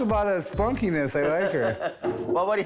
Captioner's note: laughs